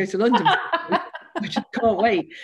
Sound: laughter

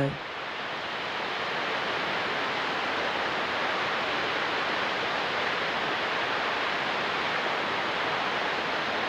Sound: water falls

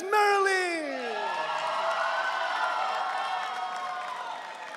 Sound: audience cheering

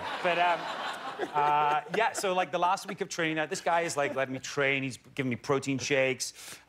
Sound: laughter

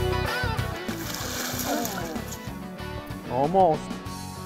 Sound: splashing

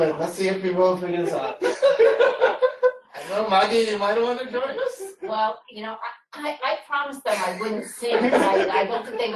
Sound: laughter

